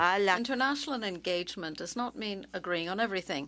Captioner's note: speaking French